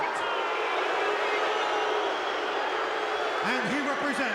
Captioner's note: crowd boos